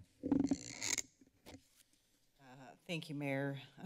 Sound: microphone rustling

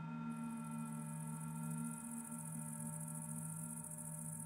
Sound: insects chirping

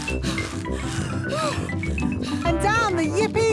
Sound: puffing and panting

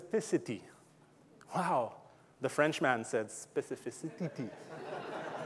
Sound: audience laughing

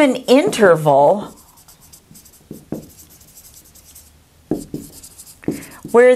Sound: sound of writing

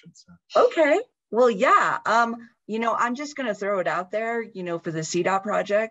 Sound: talking

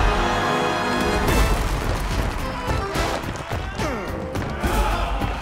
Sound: rhythmic grunting

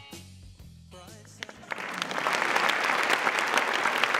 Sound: applause

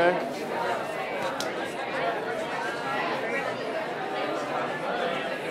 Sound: people chatting

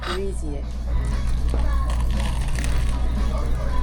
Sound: crispy sound is crazy

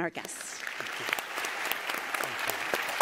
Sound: applause

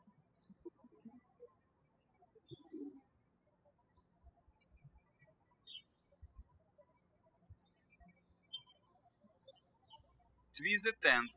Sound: birds chirping

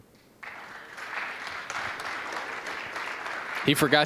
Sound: applause

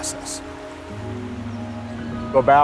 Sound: alpine creek flowing

